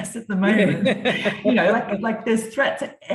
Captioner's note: both laughing